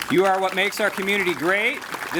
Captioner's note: applause